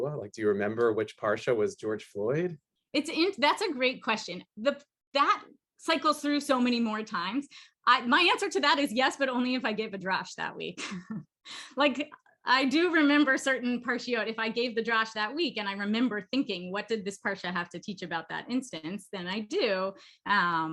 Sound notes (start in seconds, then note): 10.8 laughter